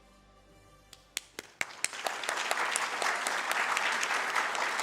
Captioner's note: dramatic music; audience claps